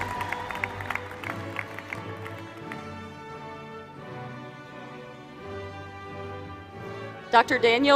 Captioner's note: applause